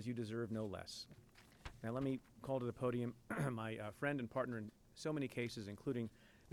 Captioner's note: clears throat